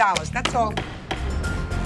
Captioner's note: gavel striking block; gentle dramatic music